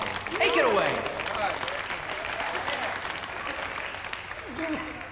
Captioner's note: audience applauding